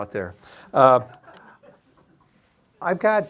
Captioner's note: audience laughing